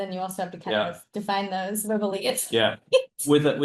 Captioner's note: laughs